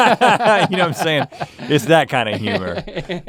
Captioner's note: both laughing